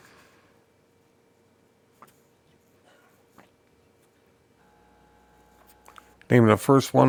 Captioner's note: silence